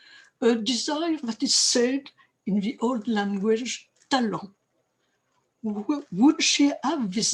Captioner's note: french